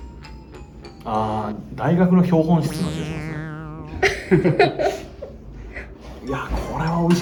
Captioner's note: laughs